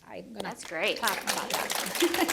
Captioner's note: applause